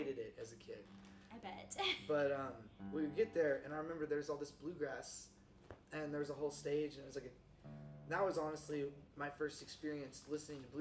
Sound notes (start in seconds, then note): 2.2 chuckles